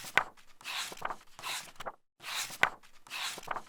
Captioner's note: pages turning